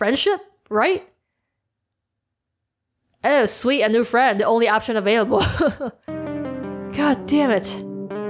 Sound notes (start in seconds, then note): 5.3 laughs